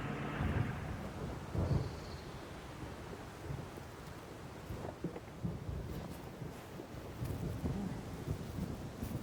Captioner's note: thunder rumbling